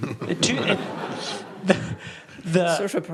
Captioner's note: laughs; audience laughs